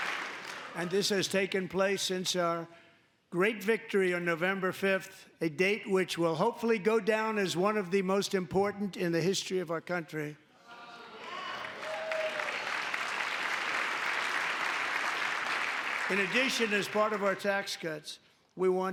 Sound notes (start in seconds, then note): 0.0 applause; 15.3 applause; 15.3 cheering